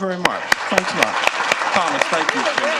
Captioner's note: applause